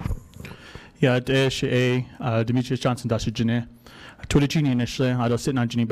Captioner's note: speaking foreign language